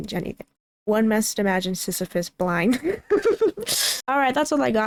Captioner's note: laughs